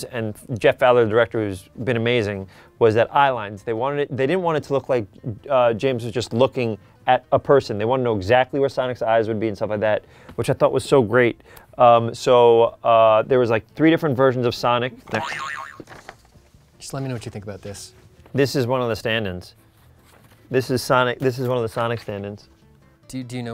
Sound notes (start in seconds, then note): 15.1 boing